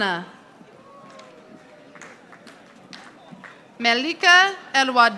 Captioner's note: audience applauding